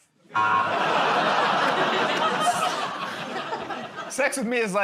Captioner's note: laughter, buzzer